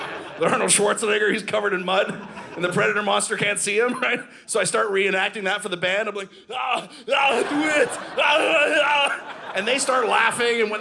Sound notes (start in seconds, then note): 6.6 Yelling like Predator; 7.1 audience laughing